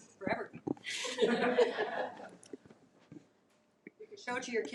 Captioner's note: attendees laugh